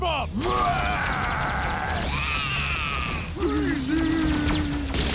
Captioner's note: Pokémon yelling